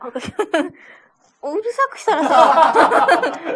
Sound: laughs

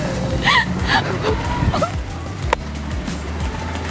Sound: laughing

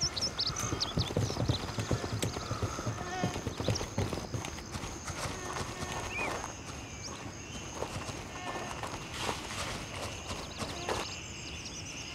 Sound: birds chirping

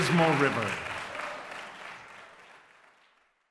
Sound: applause Continues

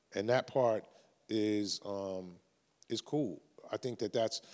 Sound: none

